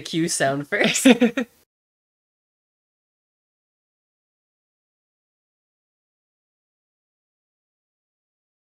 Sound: giggles

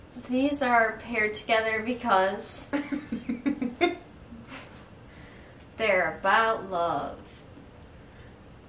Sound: laughs

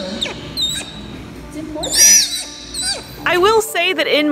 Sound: Taz vocalizing

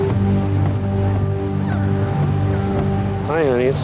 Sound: Aurora Yelps

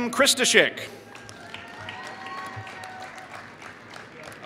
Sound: applause

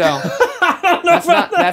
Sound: laughing

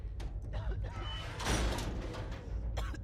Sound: coughs

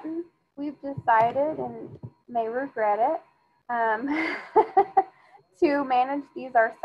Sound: laughs

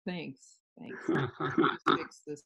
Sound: interviewer laughing

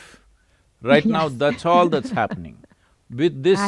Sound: laughs

